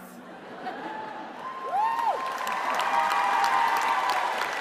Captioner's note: applause